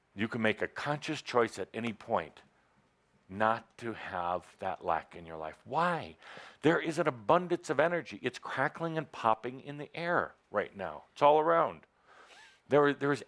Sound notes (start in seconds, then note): none